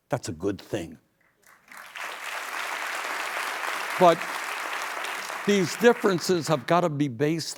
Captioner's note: applause